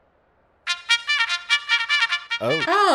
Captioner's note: simultaneous message alerts